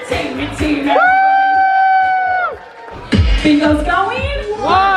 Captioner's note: players cheer